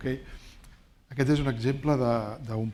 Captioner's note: speaking spanish